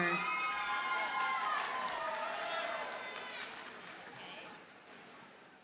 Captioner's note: audience cheers and applauds